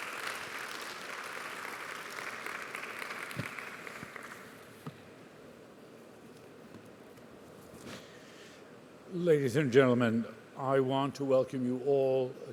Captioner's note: applause